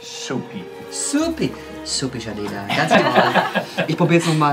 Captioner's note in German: Alle lachen